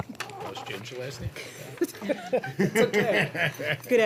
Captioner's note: laughter